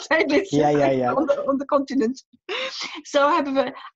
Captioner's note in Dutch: lacht; lacht